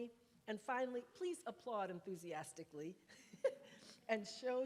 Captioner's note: laughs